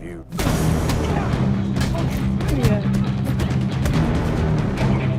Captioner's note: fists thudding